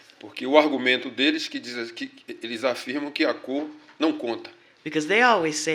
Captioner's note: speaking portuguese